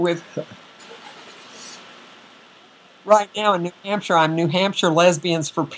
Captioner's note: audio is cutting out